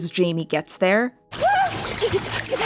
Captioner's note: Dani whimpering; Dani gasping and stuttering the phrase "It's us" over and over again